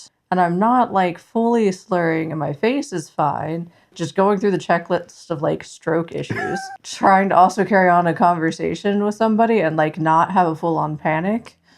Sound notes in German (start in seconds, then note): 6.3 Lacht